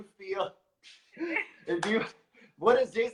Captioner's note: laughs